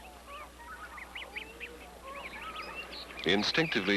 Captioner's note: birds Cawing, Chirping